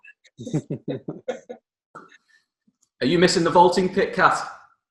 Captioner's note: laughing